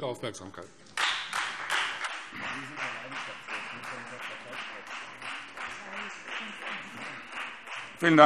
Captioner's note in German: Beifall Freie Demokraten